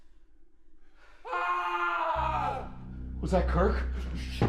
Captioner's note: screaming